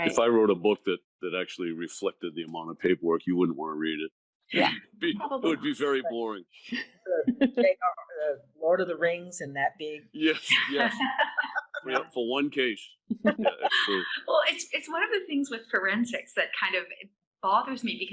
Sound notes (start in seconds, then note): 6.8 laughing; 10.4 laughing